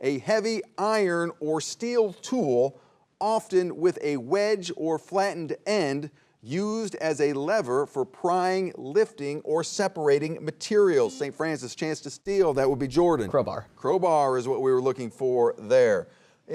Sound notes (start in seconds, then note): 11.3 buzzer beeps